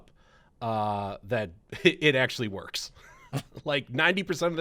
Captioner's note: laughs